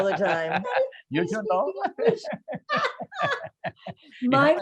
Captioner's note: laughs